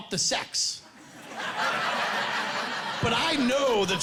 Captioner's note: laughing